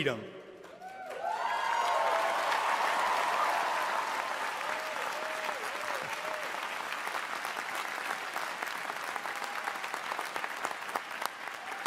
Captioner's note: cheering and applause